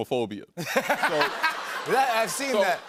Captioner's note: laughter